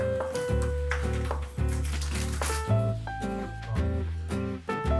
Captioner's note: skilled chopping